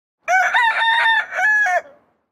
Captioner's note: rooster Crowing